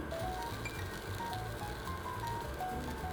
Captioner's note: sizzling